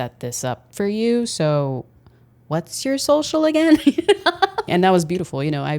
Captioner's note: laughs